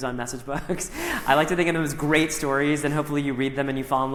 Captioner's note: chuckles